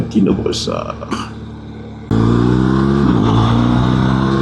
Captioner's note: engine